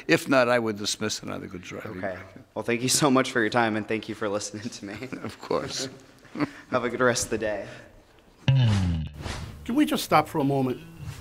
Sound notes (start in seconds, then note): 6.2 chuckles; 8.6 guitar bass music